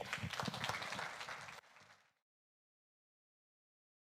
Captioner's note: audience applauding